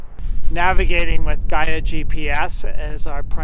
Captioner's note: air whooshing